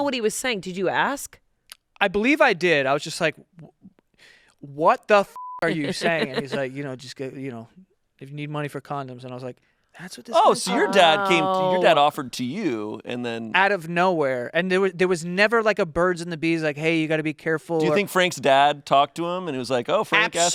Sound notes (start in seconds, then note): 5.3 beep